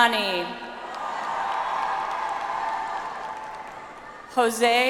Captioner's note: audience applauds